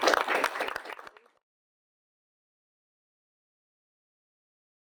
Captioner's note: audience applauding